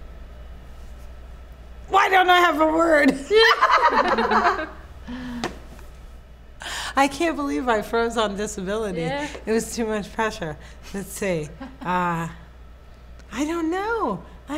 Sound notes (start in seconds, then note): 3.3 laughs